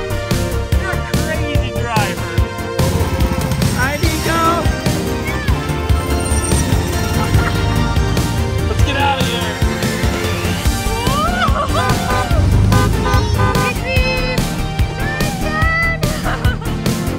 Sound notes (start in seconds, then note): 10.5 exciting music; 11.6 car beeping; 13.7 exciting music